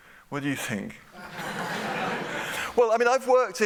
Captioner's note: laughter